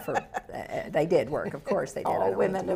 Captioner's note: laughs